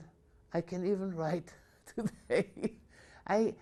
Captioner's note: laughs